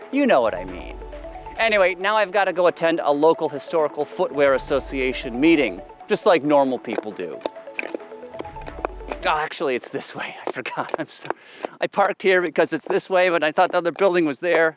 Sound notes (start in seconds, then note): 6.8 footsteps